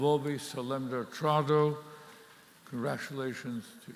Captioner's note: speaking in Latin